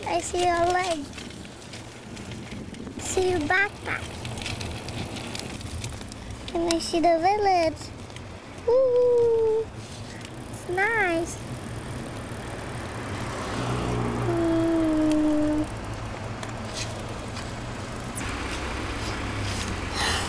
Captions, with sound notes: I see your light I see your backpack And Isee the village Oooooh Its nice! >> Hmmmmm (sounds of motors)